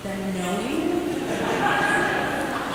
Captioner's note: laughter